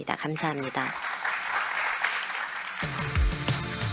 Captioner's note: applause; electronic music playing